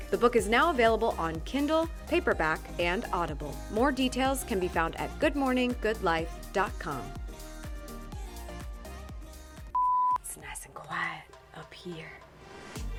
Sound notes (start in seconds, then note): 9.7 beep